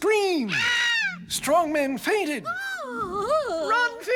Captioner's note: woman screaming; man gasping